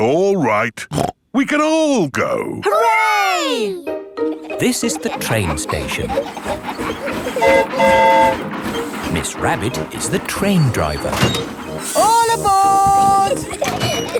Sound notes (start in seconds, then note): 7.2 train whistle toots